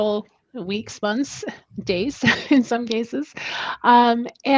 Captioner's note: laughs